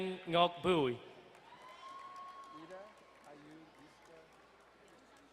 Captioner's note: distant cheering